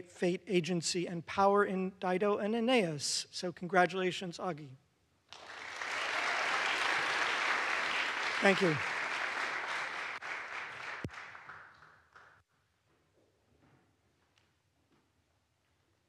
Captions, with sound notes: Fate, Agency and Power in "Dido and Aeneas", so congratulations, Augie. (audience applauds) Thank you.